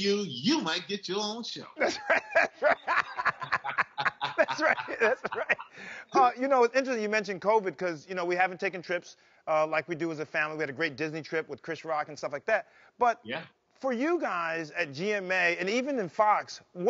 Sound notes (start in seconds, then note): 1.8 laughing